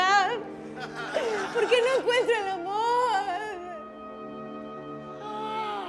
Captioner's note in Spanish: Solloza